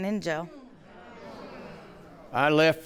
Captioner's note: audience murmurs